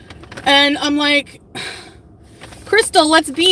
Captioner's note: sighs